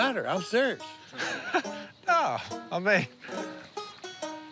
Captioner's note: laughs